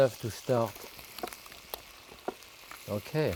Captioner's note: pan sizzling